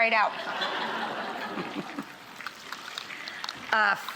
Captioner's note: audience laughing